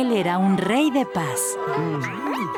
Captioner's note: caterpillar noises; crowd chatter